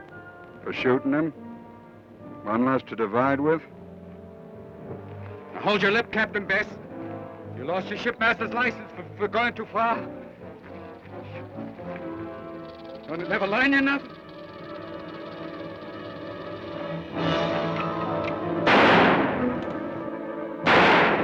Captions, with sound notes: - For shootin' him? One less to divide with? - Now, hold your lip, Captain Bess! You lost your shipmaster's license for going too far! (snake rattles) Don't it never learn you nothin'? (snake rattles) (dramatic orchestral music) (gun fires)